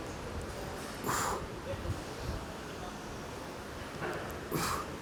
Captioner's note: grunting